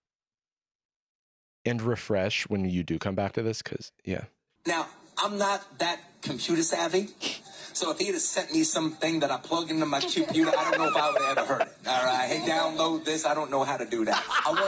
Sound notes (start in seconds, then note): 4.6 in extreme blaccent